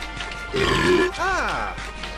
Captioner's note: burp